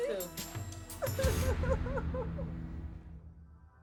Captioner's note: crying